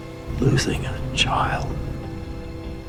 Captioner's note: voiceover